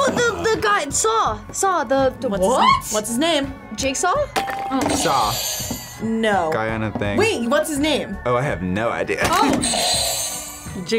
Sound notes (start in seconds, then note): 4.3 bell rings; 5.1 buzzer rings; 9.7 buzzer rings